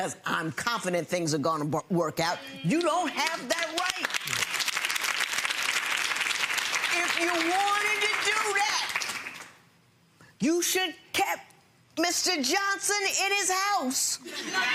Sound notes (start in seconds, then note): 2.7 audience clapping; 14.3 audience laughing